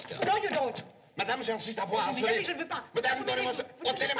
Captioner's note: both Arguing In French